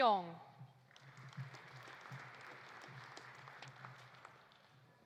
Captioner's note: audience applauding